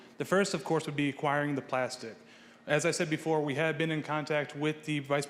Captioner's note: none